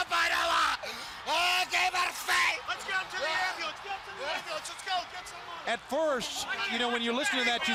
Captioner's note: crowd chatter